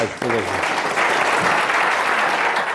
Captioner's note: applause